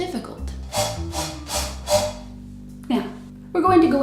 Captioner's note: scoot scoot sound of chair